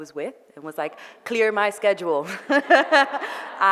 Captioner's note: laughs